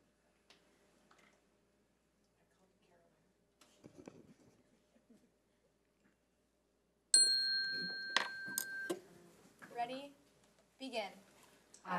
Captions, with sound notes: (bell rings) Ready, begin.